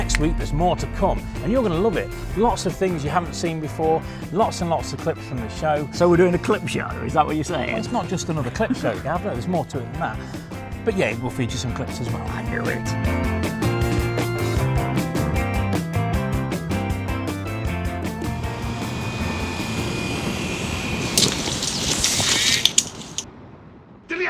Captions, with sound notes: - Next week there's more to come and you're gonna love it. Lots of things you haven't seen before. Lots and lots of clips from the show. - We're doing a clip show, is that what you're saying? - Well, it's not just another clip show. Yeah, there's more to it than that. But yeah, we'll feed you some clips as well. - I knew it. (car engine revving) (crashing sound)